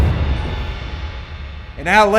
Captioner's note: gun fires